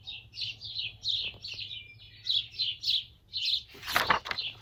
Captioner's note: birds chirping